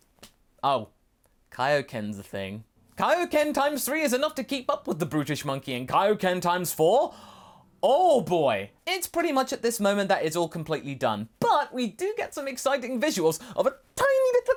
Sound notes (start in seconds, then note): 7.1 dramatic gasp